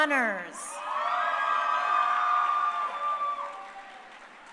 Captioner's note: crowd cheering